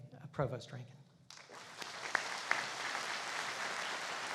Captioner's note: applauding